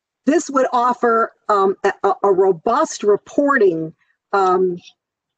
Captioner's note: none